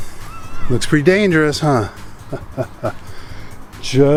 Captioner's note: laughs